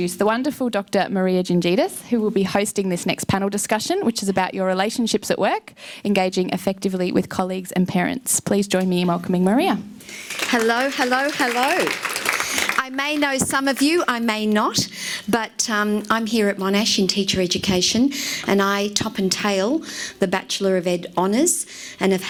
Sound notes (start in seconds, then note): 10.0 audience applauds